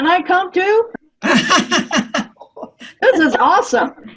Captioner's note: laughing